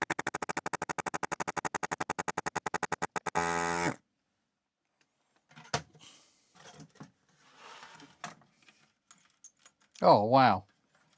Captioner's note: keyboard Clicking